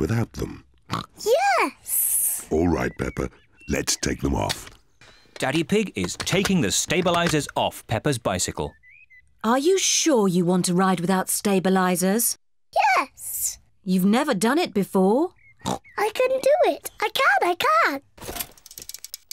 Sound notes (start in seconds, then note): 0.1 snorts; 15.6 snorts